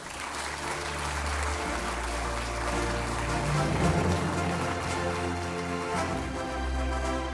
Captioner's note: applause